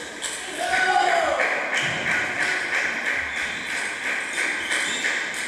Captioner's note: clap